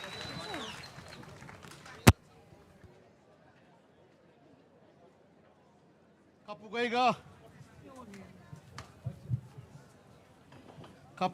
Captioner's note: applause